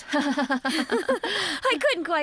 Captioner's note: laughing